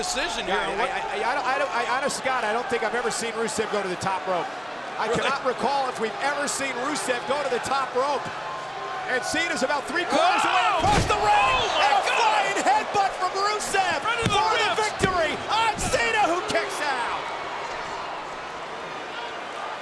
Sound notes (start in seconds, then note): 13.4 hands thudding; 17.9 crowd cheering